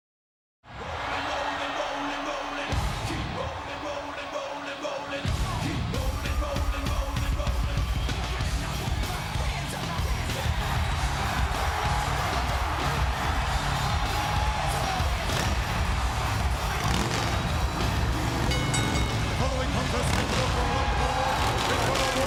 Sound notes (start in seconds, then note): 0.9 crowd cheering; 1.7 upbeat music; 12.7 crowd cheering; 14.9 motorcycle engine revving; 18.4 bell dinging